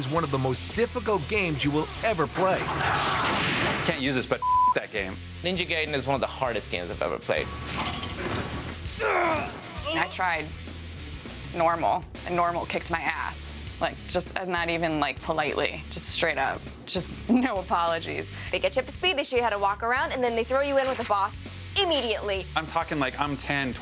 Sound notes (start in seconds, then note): 9.0 grunting